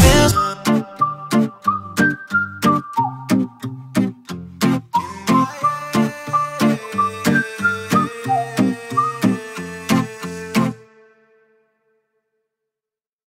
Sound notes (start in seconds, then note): 0.1 whistling; 4.9 whistling; 4.9 vocalizing